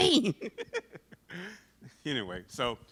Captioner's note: laughs